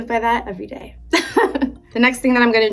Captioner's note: laughing